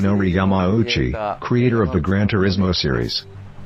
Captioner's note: speaking japanese